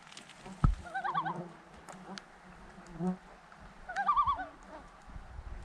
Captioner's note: sounds of nature/animals singing